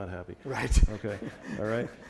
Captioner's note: laugh